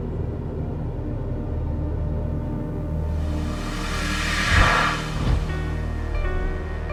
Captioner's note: air whooshing